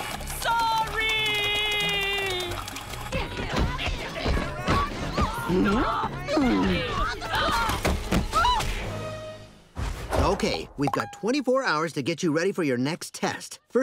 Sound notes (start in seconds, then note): 3.0 crashing